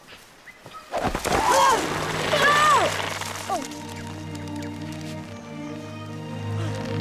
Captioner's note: suspenseful music; boys yelling